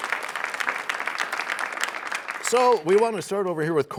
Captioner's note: applause